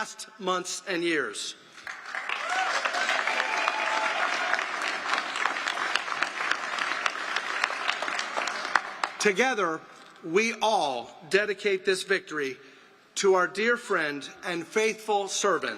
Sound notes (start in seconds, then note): 5.0 applause